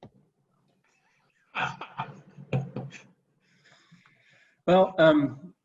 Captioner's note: chuckling